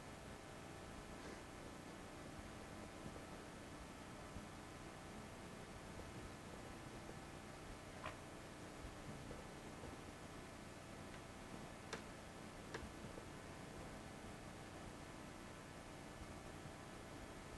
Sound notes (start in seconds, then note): none